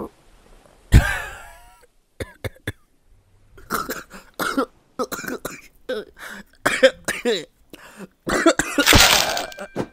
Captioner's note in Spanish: sonidos de tos